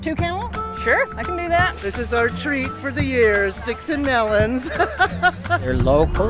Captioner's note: laughing